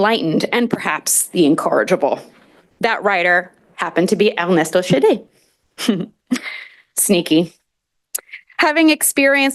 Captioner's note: laughter